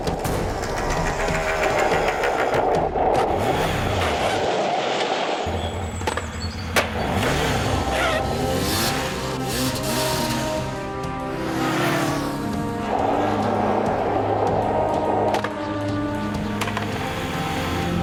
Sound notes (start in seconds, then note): 4.5 tire screeching; 7.3 motorcycle revving; 13.1 skateboard rolling; 15.5 skateboard clattering; 17.8 motorcycle rumbling